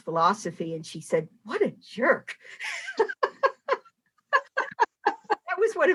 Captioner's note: laughing